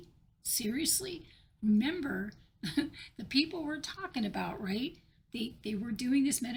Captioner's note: laugh of disbelief